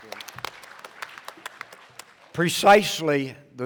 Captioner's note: applause